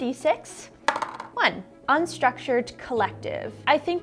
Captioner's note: dice clunking